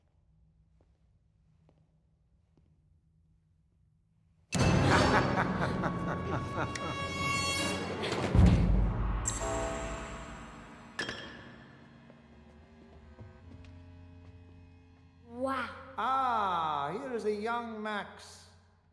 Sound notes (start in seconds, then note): 4.6 evil laugh